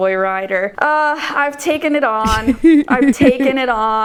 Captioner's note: laughing